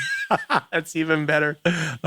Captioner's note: laughing